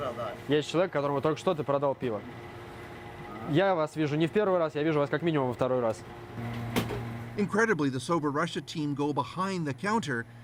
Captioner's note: speaking russian